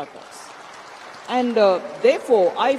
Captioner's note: audience applauds